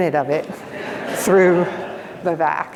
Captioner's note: audience laughs